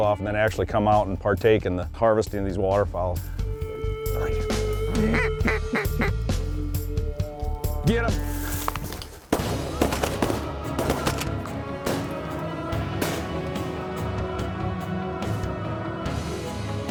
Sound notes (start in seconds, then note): 4.8 duck calls; 9.2 gun shots